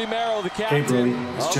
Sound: appuse

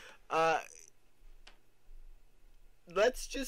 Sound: none

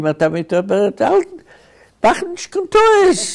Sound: speaking in Yiddish

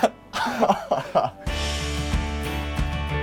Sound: laughter

